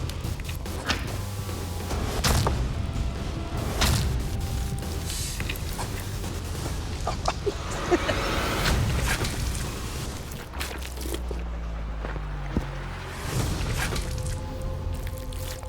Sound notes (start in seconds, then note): 6.8 laughs